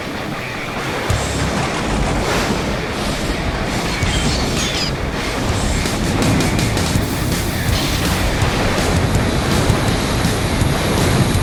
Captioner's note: battle sounds